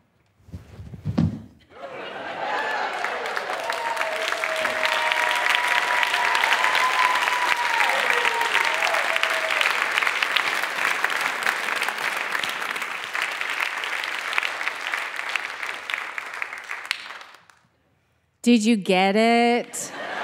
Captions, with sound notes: (loud thumping) (audience clapping) Did you get it?